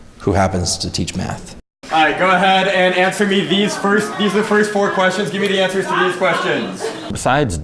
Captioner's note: classroom noise